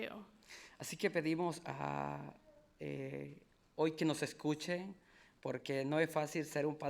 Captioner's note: speaking in foreign language